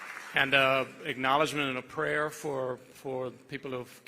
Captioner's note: applause